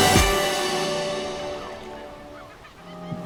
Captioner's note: seagulls chirping